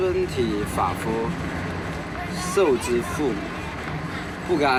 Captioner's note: hablan un idioma extranjero